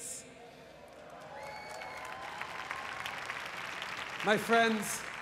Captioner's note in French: Applaudissements